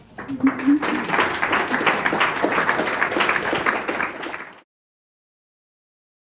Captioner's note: applause